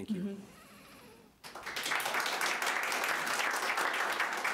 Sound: audience applauding

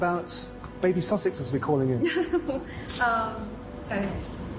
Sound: Meghan laughs

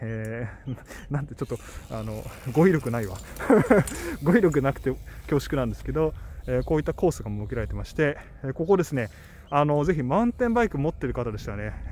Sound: laughs

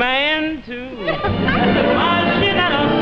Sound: audience laughing

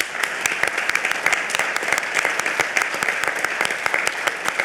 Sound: all applauding

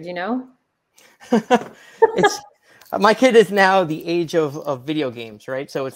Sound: laughs

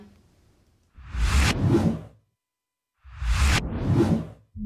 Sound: air whooshing

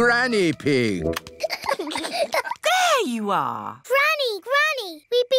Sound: peppa and george giggling

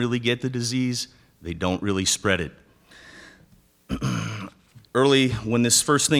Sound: clears throat

